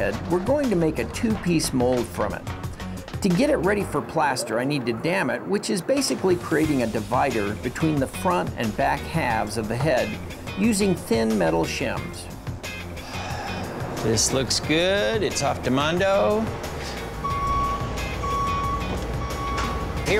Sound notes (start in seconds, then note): 13.0 sigh; 17.2 beeping